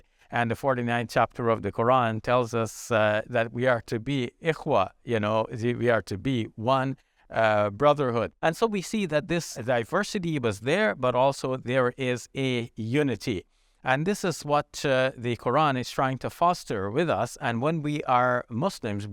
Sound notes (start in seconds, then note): 4.1 speaking in Arabic